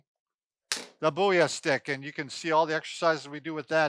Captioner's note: sticks tap